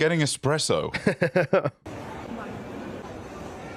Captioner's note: chuckles